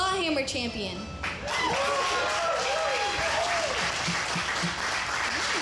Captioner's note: audience cheering